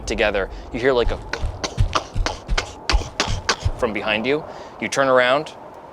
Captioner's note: imitates thudding